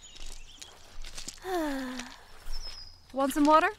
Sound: sigh

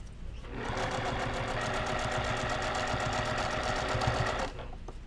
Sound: machine whirring

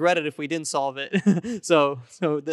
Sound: laughing

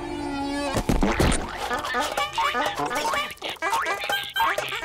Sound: honking; laughing

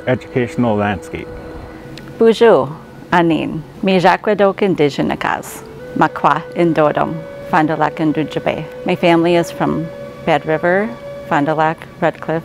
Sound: foreign

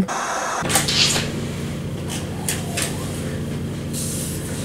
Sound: static hissing; door squeaking

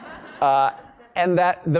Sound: laugh

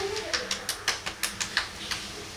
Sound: slap slap x2

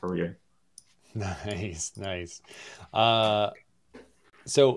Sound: laughs

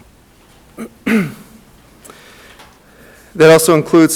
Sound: clears throat

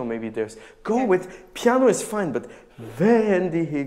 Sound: speaking in a foreign language

